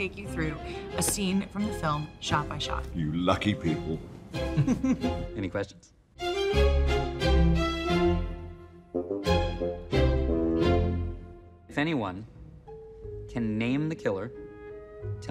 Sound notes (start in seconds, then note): 4.5 Kate chuckles; 6.1 lively music